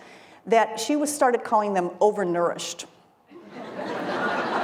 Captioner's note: laughter